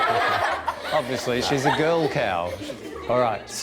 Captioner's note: laughing; class laughs